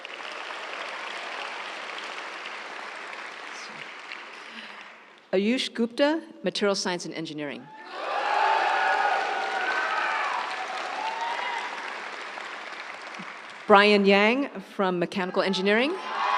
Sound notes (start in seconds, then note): 0.0 audience cheering; 0.0 audience applauds; 7.8 audience cheering; 7.8 audience applauds; 16.0 audience cheering; 16.1 audience applauds